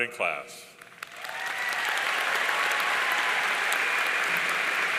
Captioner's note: audience cheering